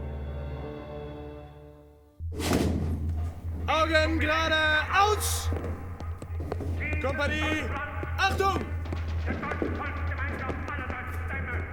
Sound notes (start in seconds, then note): 3.9 speaking german; 10.4 speaking german